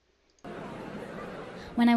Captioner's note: audience talking